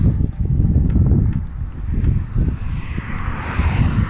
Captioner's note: traffic